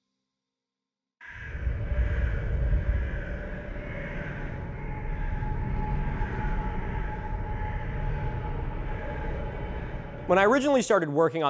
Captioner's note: birds cawing